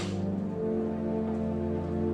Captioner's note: door shutting; soft music